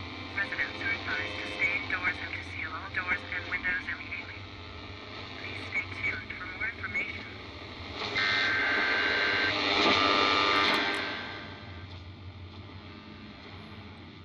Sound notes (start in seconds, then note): 8.1 emergency broadcast signal; 8.1 increased radio static